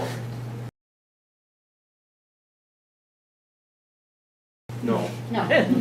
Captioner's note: silence